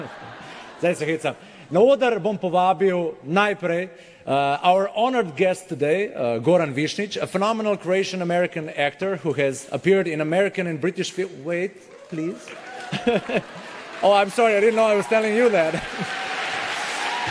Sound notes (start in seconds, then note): 11.8 applause; 15.8 cheering/Applause